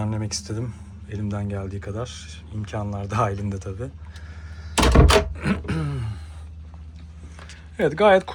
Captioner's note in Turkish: boğazını temizler